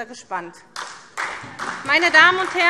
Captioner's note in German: Beifall SPD